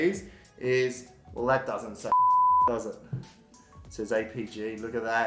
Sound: beep

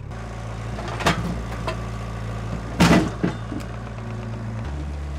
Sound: forklift engine roaring

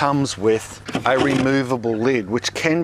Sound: sifter lid scratches

